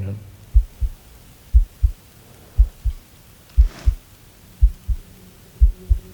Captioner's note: eerie music; heart beating